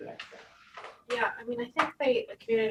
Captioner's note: faintly speaking